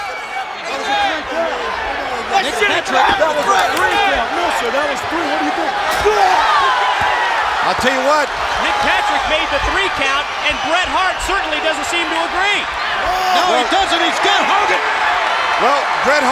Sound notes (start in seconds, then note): 2.4 claps